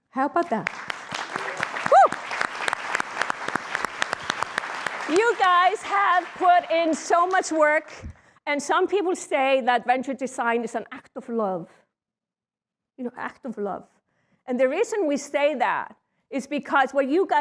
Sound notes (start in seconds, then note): 2.0 applause